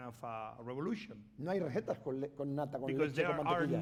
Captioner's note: speaking spanish